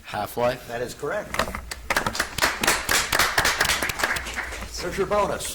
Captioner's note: audience applauds